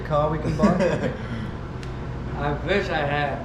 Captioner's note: laughing